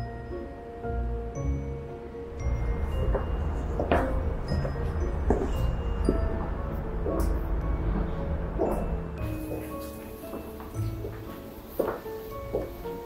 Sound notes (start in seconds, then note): 5.0 footsteps